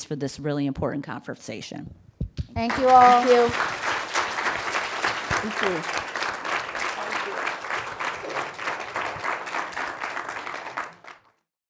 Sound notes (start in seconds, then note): 3.9 audience applauding; 8.3 audience applauding